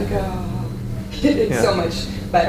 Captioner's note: chuckles